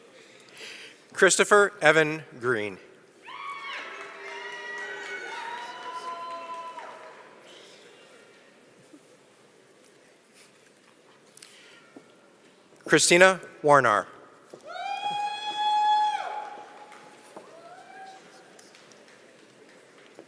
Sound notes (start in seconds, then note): 6.2 applause